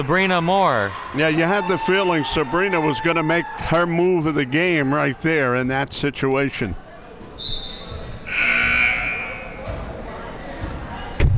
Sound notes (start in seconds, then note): 8.2 buzzer sounding; 8.2 whistle being blown